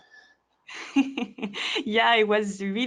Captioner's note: laughing